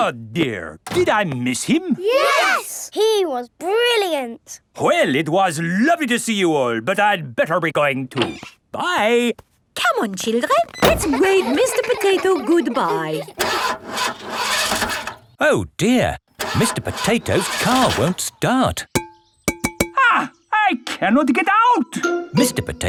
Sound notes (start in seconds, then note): 13.8 engine sputtering; 19.9 knocking on window